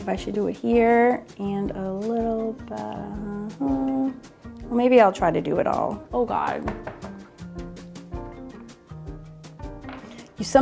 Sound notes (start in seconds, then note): 4.1 humming; 7.6 upbeat music